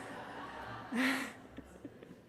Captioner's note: audience laughter